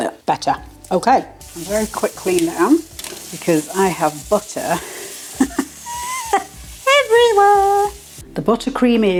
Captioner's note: laugh